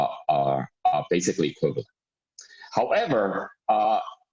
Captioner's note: murmur